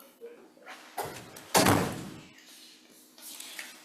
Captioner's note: door thuds